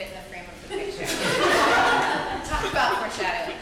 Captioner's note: audience laughing